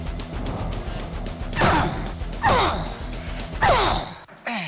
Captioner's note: rock music; grunting